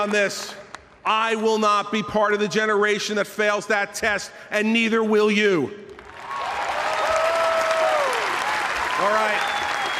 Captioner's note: applause